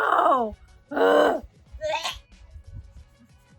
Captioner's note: groans; gag